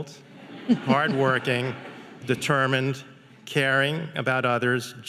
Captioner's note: audience laughing